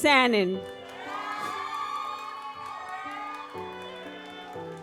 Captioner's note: audience cheers